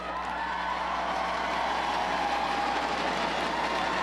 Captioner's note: crowd cheers